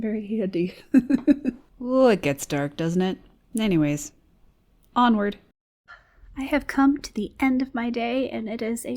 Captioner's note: chuckles